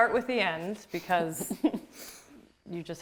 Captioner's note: laughs